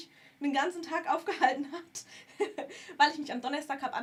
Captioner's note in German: gelächter